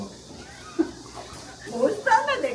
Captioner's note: laughter